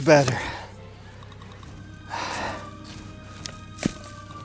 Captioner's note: heavy breathing